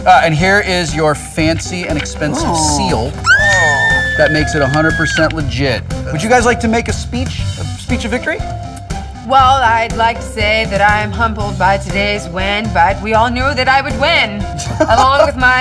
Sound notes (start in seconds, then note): 2.2 clare squealing